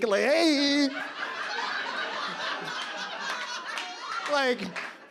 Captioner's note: audience laughs